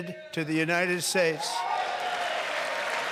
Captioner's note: applause